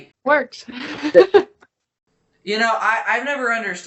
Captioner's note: laughing